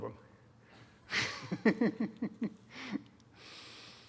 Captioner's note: laughs